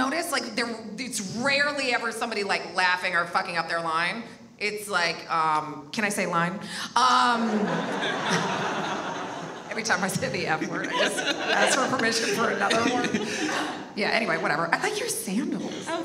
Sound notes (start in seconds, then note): 7.4 audience laughs